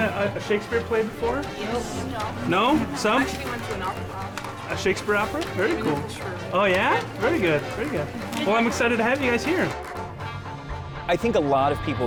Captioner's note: chatter with students